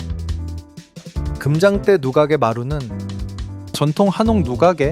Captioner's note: speaking in foreign language